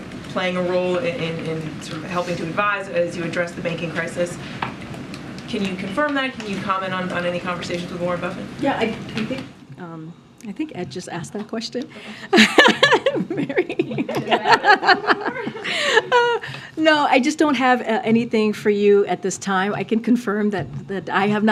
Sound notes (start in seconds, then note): 12.2 laughs